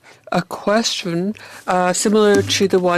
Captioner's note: speaking French